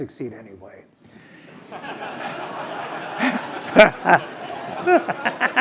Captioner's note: laugh